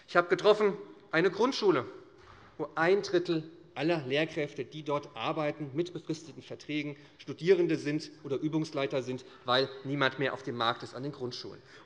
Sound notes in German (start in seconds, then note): none